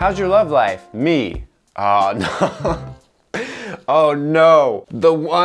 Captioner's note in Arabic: يضحك